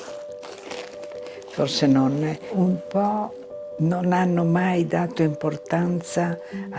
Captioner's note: speaking in foreign language